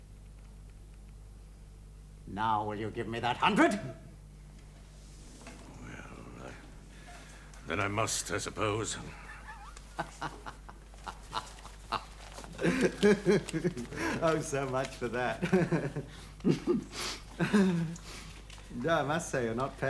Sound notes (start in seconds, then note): 9.0 laughs